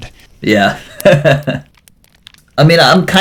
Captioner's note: laughs